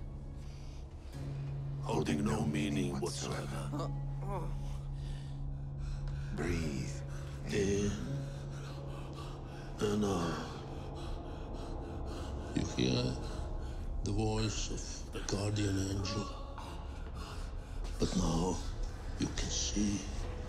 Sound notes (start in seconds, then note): 3.7 Palle groans